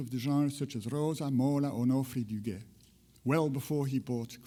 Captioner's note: speaks in foreign language